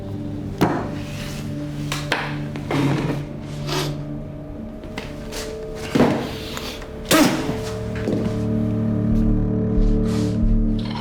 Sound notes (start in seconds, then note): 0.5 hand thudding; 2.9 chair screeching; 3.8 sniffing; 7.0 spitting; 8.3 deep tense music